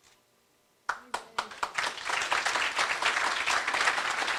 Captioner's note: applause